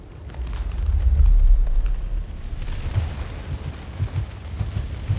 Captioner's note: wings rustling and fluttering